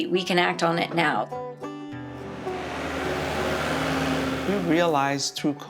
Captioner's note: calm music; tractor revving